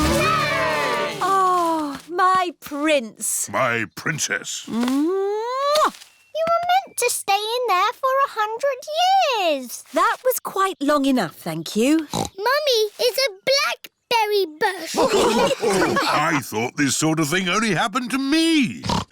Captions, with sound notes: -(ALL CHEERING) -Oh, my prince! -My princess! -(KISSES) You were meant to stay in there for 100 years. That was quite long enough, thank you. (SNORTS) Mummy is a blackberry bush. (ALL LAUGHING) I thought this sort of thing only happened to me.